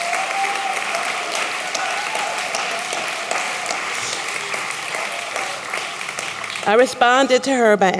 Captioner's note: applause